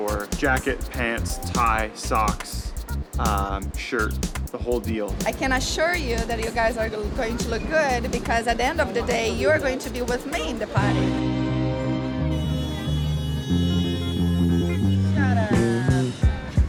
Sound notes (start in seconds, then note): 12.7 horn blaring